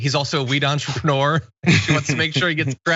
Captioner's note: laugh